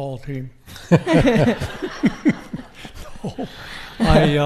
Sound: audience laughing

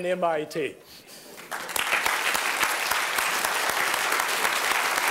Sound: applause

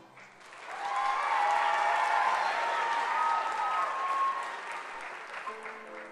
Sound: applause

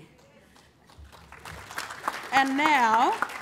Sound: applause

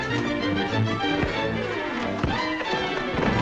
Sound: knuckles rapping; whimsical music

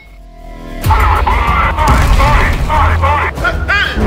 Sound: speaks imagined languague

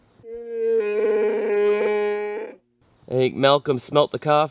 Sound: dog whining

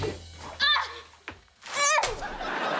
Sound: groaning; laughing

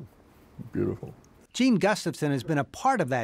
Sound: laughs

